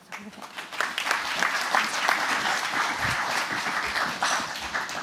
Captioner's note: applause